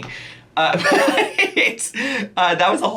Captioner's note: laughs